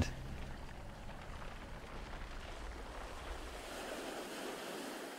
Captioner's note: waves crashing continues